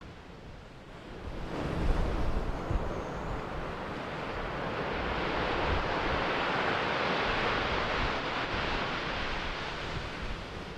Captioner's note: wind howling